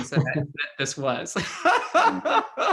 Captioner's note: laughs